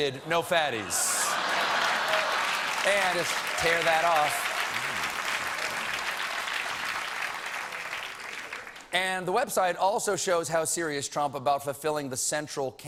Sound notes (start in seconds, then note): 2.6 laughter